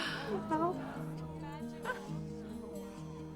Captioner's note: chuckles